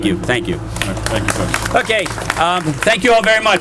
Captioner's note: applause